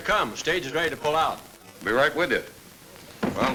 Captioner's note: none